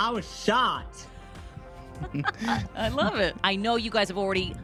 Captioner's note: laughs